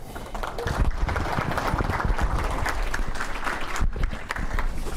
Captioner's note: audience clapping